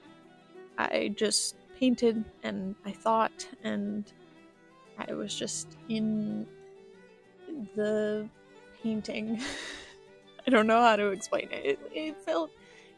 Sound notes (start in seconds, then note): 9.4 laughter